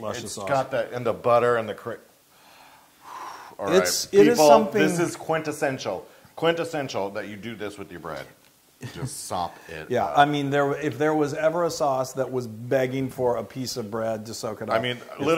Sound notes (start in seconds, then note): 8.8 laugh